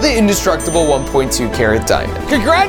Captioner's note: bell dinging